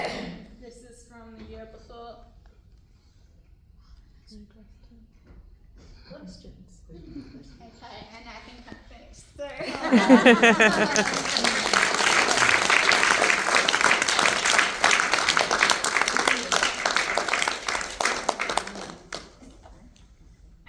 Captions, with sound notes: This is from the year before. Ok and I think I have finished, so (Laughter and Applause).